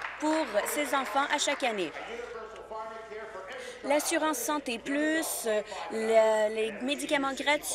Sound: applause

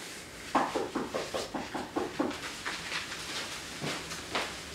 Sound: knocking at door

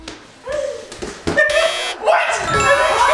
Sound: buzzer

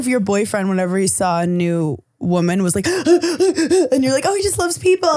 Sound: panting

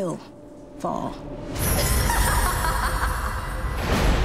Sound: echoing laughter

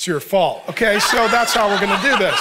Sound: audience laughing

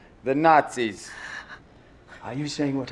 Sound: Lorraine cries

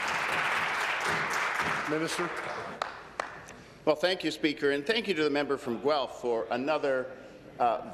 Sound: applause

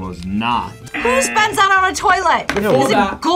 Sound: buzzer

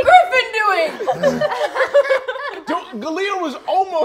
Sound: players laughing

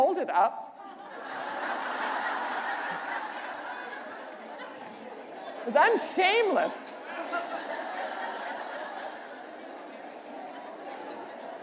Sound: laughter

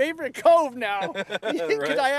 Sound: laughter

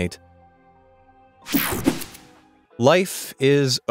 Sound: digital buzzing

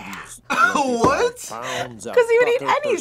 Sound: laughs

